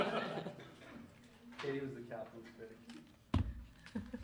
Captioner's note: laughing